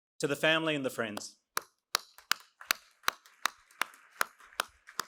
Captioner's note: claps